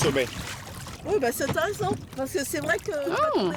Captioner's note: speaking French